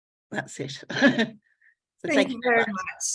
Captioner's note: laughs